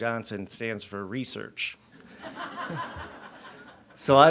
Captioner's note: audience laughs